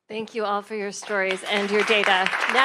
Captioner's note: attendees applauding